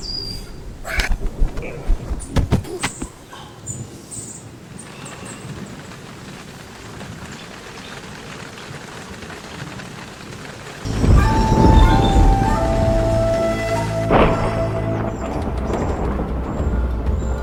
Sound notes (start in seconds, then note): 4.9 rain splattering; 10.8 dramatic flute music; 14.2 thunder rumbling